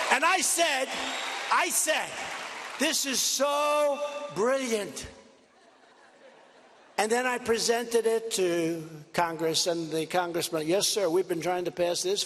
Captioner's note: cheers and applause